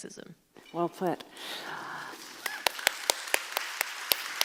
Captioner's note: applauding